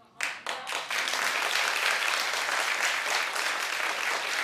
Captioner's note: audience clapping